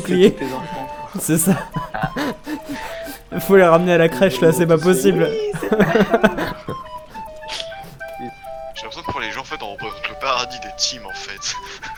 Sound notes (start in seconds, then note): 2.0 laughing